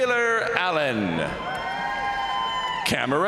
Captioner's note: crowd cheering; crowd applauding